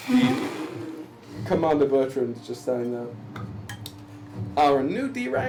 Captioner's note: snorts